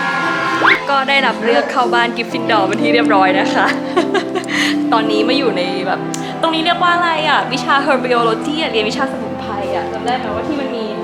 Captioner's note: screaming plant